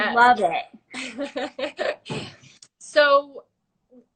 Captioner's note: laughing